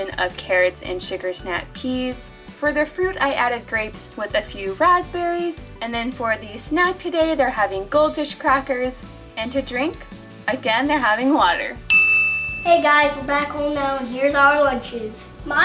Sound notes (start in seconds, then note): 12.5 happy Voice